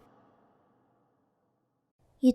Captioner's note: silence